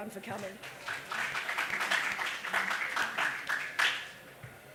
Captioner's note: audience applause